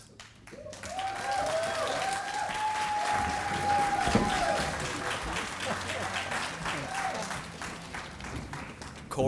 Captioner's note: applause